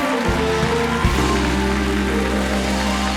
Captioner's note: cheers and applause